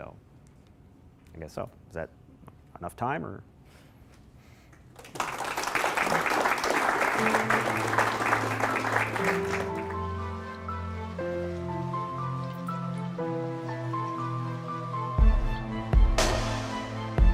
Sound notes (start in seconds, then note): 4.8 applause; 9.9 closing music